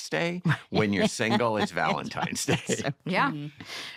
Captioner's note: laughter